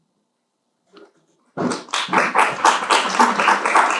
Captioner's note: applause